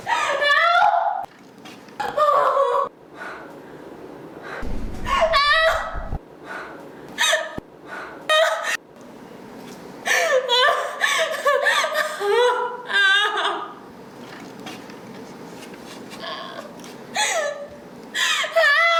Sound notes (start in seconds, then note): 4.9 shouting; 10.0 sobbing